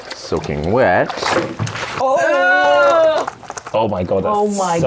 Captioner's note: sheepskin sloshes